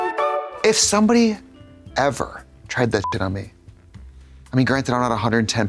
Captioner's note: beep